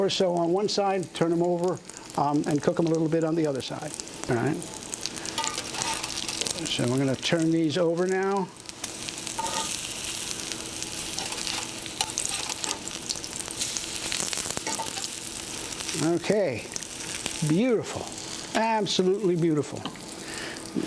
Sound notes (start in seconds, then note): 8.1 sizzling